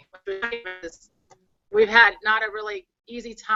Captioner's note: voice distortion from bad connection